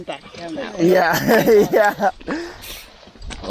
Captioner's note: laughing